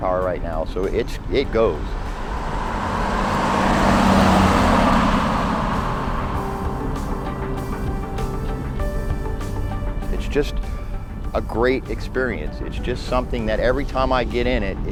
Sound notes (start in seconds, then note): 2.3 car sound driving past